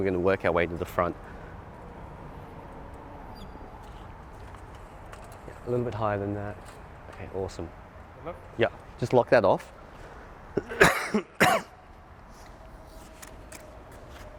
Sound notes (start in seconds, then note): 10.5 coughing